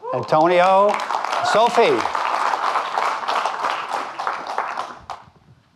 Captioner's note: audience clapping